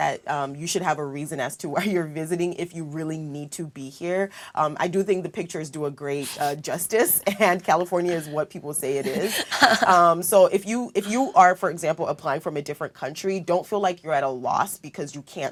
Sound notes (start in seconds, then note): 8.9 laugh